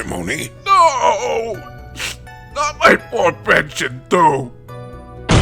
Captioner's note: sniff